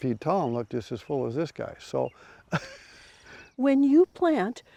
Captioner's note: chuckles